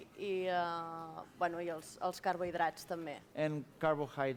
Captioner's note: non-english speech